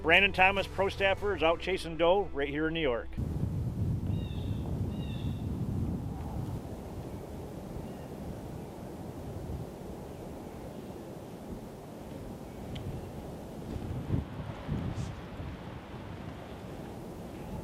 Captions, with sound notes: Brandon Thomas Pro Staffer is out chasing doe right here in New York. (bird caws) (wind blows)